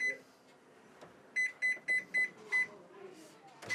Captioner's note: microwave beeps